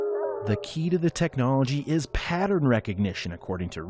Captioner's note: voice-over